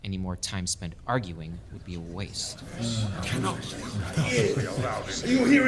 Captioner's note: more dissent, giggling